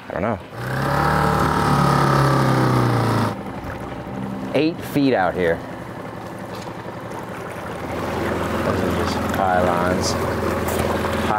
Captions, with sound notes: I don't know. (engine droning) Eight feet out here. (engine droning) Watch for these pylons, pylons.